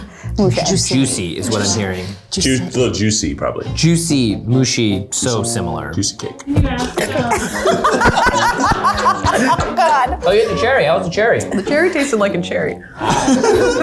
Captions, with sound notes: - Juicy is what I'm hearing. - A little juicy, probably. - Juicy, mushy. So similar. - Juicy cake. (chokes) (laughter) - Oh god. - Oh, you had the cherry. How was the cherry? - The cherry tasted like a cherry.